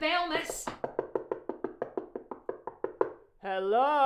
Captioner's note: door knocking